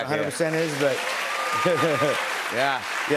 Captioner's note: cheers and applause